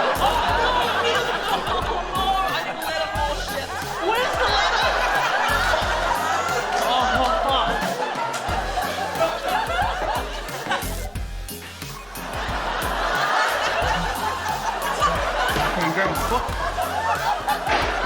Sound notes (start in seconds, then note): 11.5 laughter